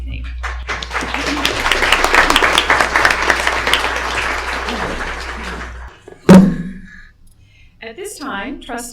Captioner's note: applause